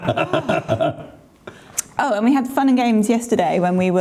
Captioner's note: laughing